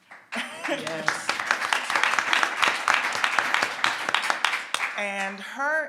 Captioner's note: everyone applauds